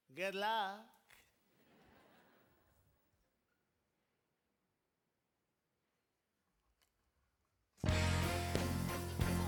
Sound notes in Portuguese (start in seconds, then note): 1.7 audience laughing; 7.8 energetic rock music